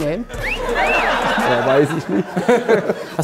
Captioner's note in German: Gelächter